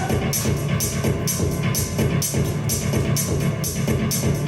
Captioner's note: actor vocalizing